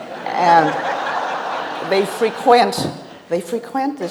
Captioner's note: audience laughs